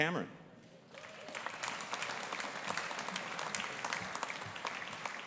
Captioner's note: audience applauding